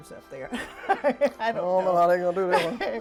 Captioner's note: laughs